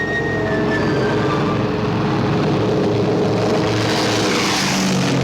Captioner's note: airplane engine roars